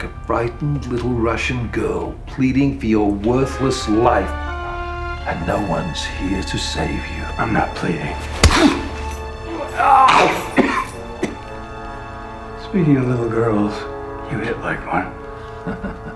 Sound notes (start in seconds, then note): 7.6 smacking; 9.5 grunting; 11.3 coughing; 15.4 laughing